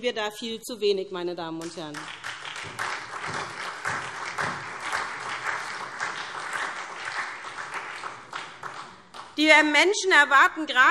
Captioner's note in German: Beifall SPD und Freie Demokraten